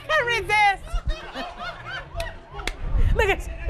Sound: laughter

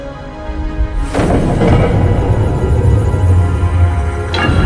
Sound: mechanism moving

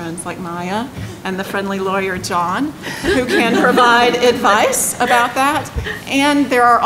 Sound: laughter

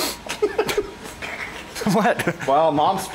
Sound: laughing

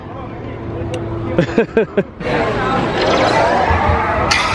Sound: laughs

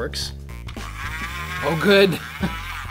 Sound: whirring

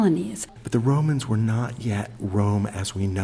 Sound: voiceover

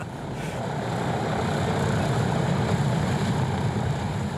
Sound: laughs; airplane rumbling

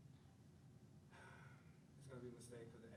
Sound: sighs

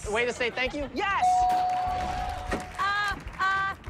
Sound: bell dings

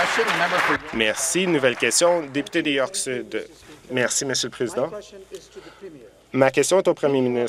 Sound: applause

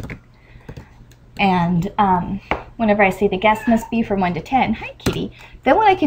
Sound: cat meows

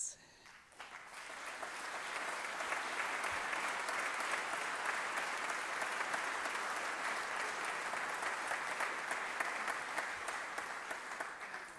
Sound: applause

